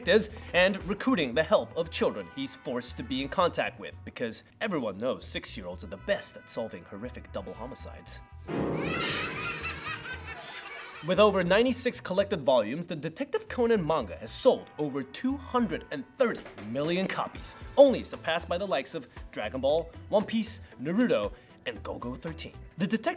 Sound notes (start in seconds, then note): 8.7 children Laughter